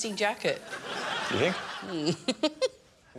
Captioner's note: laughs